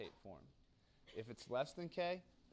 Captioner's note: cough